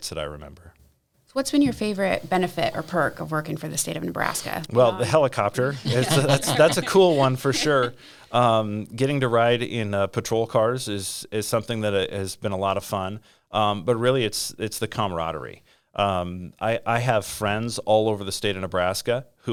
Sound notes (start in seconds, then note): 4.4 laughing